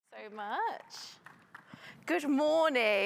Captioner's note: audience applauding